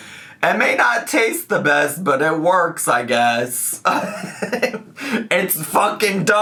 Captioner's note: laughs